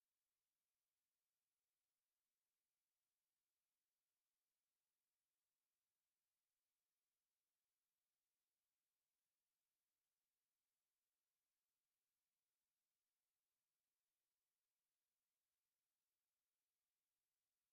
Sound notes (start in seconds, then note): none